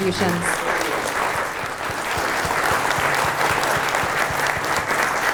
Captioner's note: audience applauding